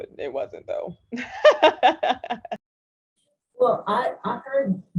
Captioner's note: laughs